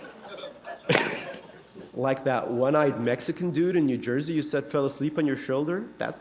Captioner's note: laughter